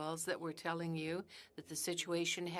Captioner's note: speaking French